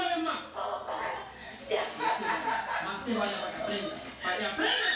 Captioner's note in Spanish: Risas